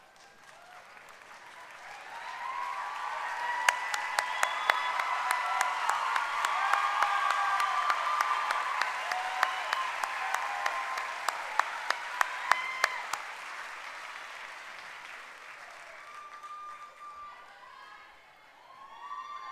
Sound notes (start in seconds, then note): 6.3 cheering and applause